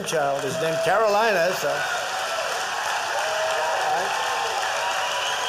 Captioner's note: applause